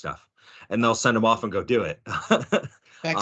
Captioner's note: laughing